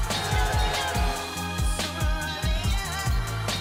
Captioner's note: cheers